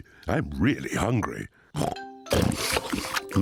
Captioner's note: all munching; snorts